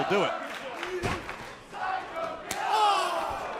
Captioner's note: crowd cheering